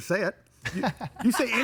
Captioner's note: laughing